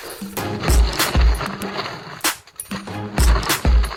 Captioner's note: snow crunching